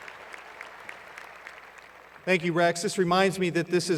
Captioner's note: cheers and Applause